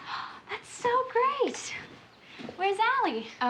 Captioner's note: gasps